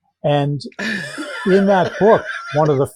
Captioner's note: laughing